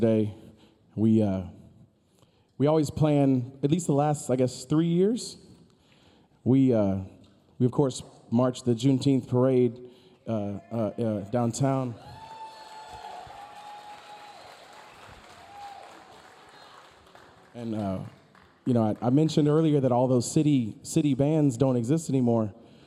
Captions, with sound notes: - Yesterday, we always plan at least the last, I guess, three years. We, of course, marched the Juneteenth Parade downtown. (audience cheering) (audience applauding) And you know, I mentioned earlier that all those city bands don't exist anymore.